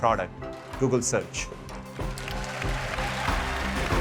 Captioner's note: applause